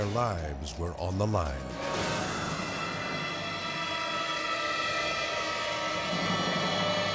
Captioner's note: tense music; wind whooshing